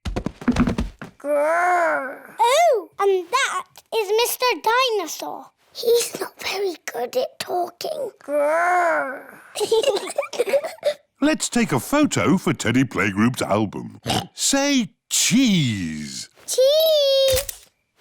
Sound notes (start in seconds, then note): 5.6 whispers; 9.5 both giggle; 14.0 oinks